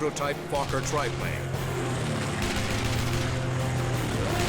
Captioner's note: weapons firing